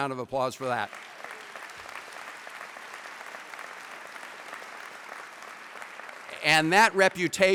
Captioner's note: applause